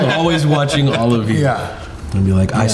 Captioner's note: all laughing